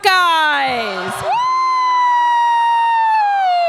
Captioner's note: crowd cheers